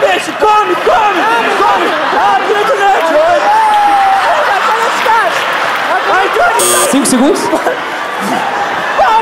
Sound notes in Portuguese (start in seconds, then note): 6.6 campainha